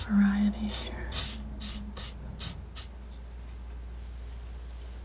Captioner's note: scratching